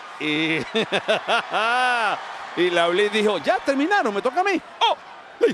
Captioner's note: laugh